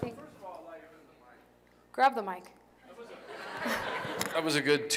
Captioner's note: laughter